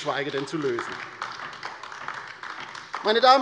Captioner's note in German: Beifall bei der LINKEN